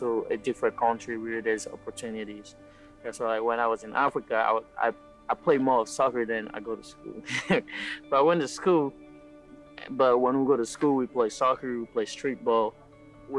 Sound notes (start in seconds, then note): 7.0 laughing